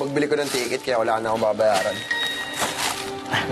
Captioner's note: phone dings